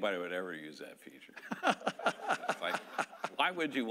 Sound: laughing

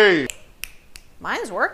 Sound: snapping

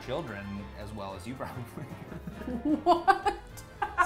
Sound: laughs

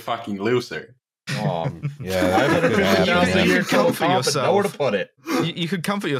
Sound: laughter

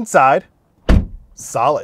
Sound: lock thumps

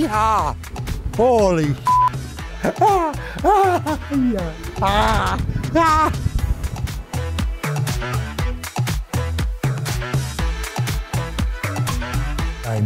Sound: maniacal laughter

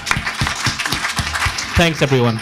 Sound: audience applauds

